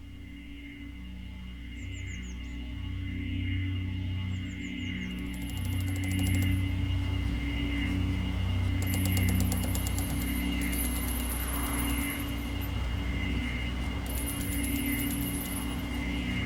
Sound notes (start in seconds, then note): 0.0 ominous music; 7.1 birds chirping